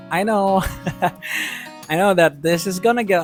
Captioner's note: chuckles